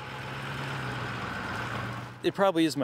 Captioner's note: truck driving past